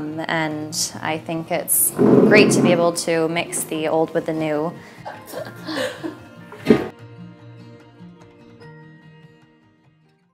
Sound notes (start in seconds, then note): 5.1 laughs; 6.8 gentle music